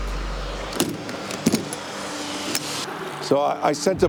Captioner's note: traffic humming